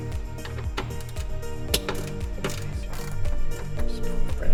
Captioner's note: wrench cranking